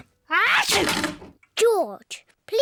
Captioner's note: sneezes